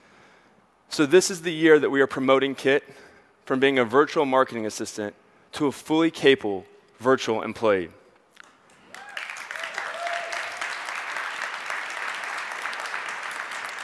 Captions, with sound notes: So this is the year that we are promoting Kit from being a virtual marketing assistant to a fully capable, virtual employee. (audience cheers and applauds)